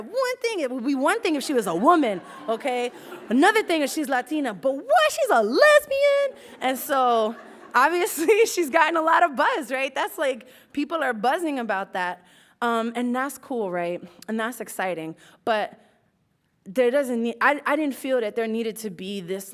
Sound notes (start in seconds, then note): 3.0 laughs; 7.2 laughs